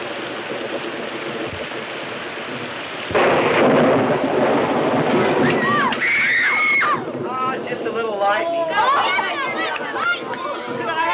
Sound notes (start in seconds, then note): 5.2 children scream; 8.2 children yelling